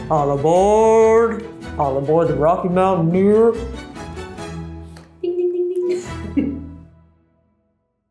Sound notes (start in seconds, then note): 5.2 laughs